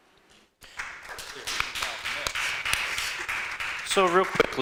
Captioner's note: audience applauding